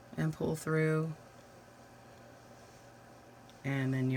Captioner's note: silence